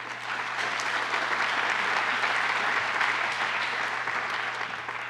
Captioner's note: applause